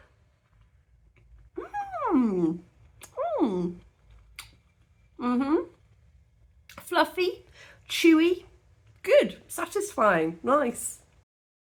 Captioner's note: happy noises